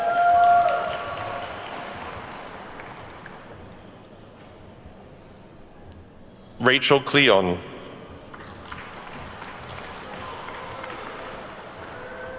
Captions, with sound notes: (attendees whooping and clapping) Rachel Klion. (attendees clapping)